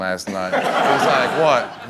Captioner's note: laughing